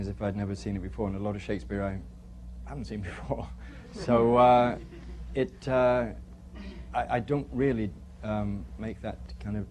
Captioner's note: laughter